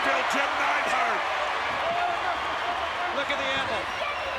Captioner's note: applause